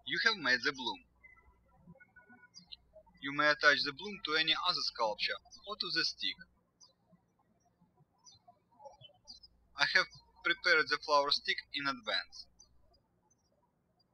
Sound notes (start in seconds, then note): 7.8 birds chirping